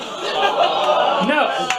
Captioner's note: audience groans